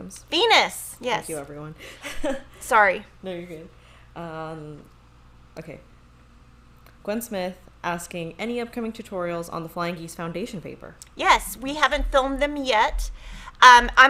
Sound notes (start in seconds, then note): 2.6 laughs